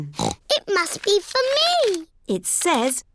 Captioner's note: snorts